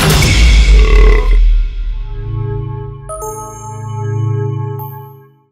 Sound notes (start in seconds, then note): 0.7 burbs